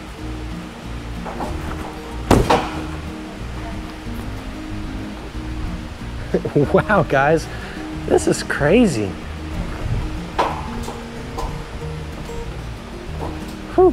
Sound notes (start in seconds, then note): 1.1 trampoline clacks; 1.1 feet thud; 6.1 chuckles; 10.3 trampoline clacking